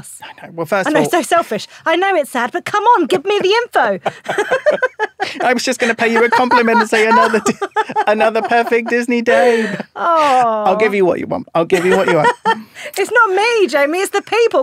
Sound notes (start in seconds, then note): 3.7 laughing; 11.7 laughing